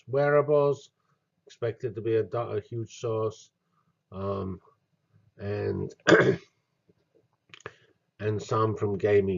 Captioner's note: cough